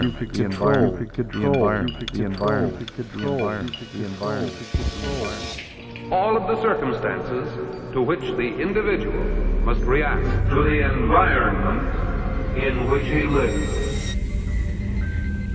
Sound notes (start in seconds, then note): 4.1 explosion, crash